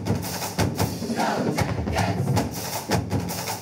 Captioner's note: crowd